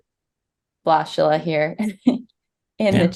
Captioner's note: chuckles